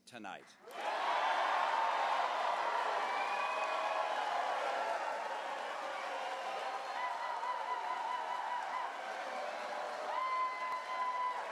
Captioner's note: cheers